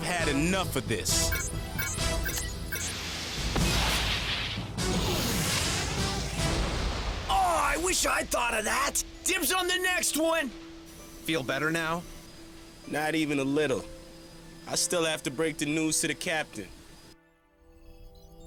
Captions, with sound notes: MAN, I'VE HAD ENOUGH OF THIS. (RADAR BEEPS) (BUTTON BEEPS, ROCKETS BLAST) (EXPLOSION) AWWW! I WISH I'D THOUGHT OF THAT. DIBS ON THE NEXT ONE! FEEL BETTER NOW? NOT EVEN A LITTLE. I STILL HAVE TO BREAK THE NEWS TO THE CAPTAIN.